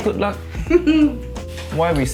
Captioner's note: chuckles